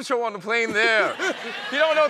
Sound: laughter

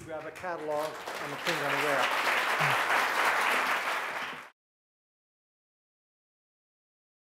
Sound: audience applause

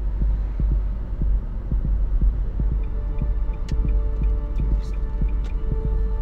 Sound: car noise

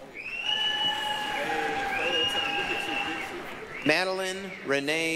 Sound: applause, cheering

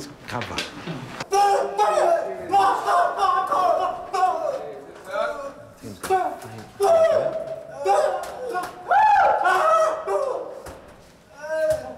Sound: shouts, cheering

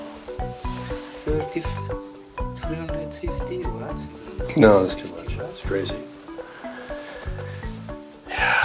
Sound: sighs

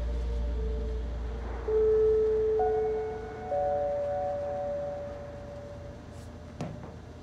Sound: bell tone

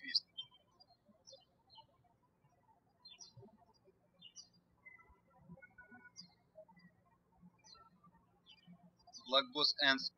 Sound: birds chirping

